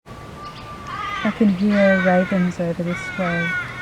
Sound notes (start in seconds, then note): 0.1 birds chirping